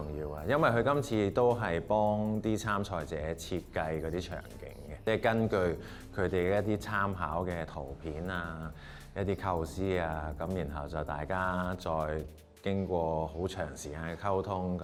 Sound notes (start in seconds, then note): none